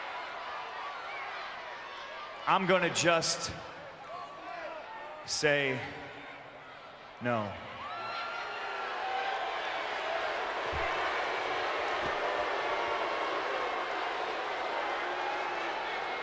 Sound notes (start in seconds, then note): 7.7 crowd boos; 8.2 woman cheers; 12.7 crowd boos